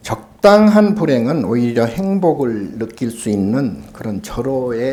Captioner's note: speaking Korean